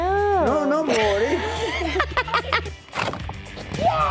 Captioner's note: laughing